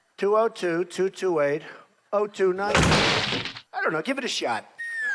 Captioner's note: banging